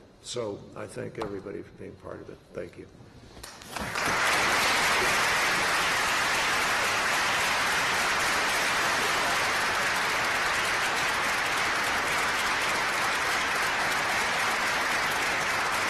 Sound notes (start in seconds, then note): 3.4 applause